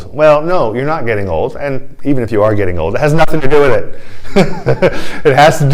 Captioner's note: laughter